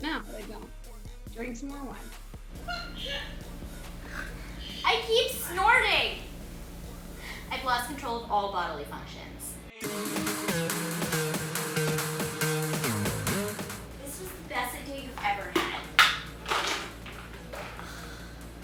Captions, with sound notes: - Now here I go to drink some more wine. (sneezes) - I keep snorting! I've lost control of all bodily functions. (electronic dance music) This is the best day we've ever had.